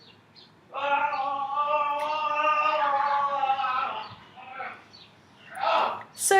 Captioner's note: yelling, as in people chasing around the house laughing and yelling